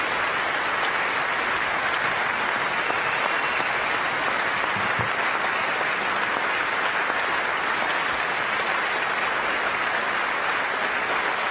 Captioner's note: applause